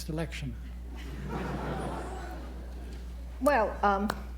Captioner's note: laughter